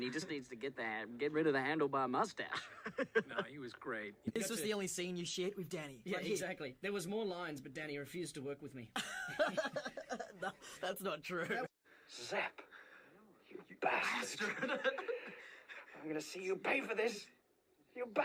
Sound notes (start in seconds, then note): 9.0 laughing